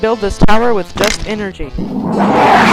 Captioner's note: explosion sound